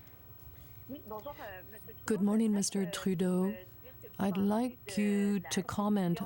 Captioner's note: speaking french